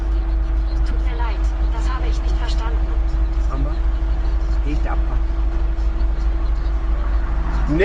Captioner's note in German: leise